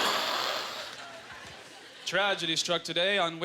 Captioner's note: imitates crash; audience laughter